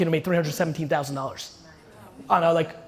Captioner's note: crowd murmuring